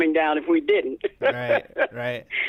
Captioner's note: laughter